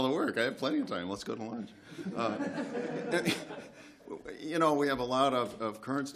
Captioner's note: laughter